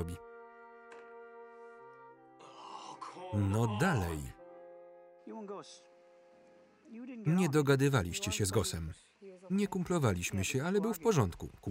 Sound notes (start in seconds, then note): 0.0 dramatic music; 2.4 groans